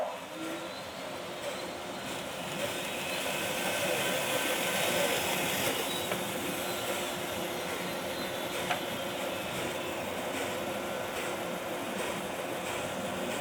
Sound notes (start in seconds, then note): 1.1 band saw cutting; 2.3 band saw running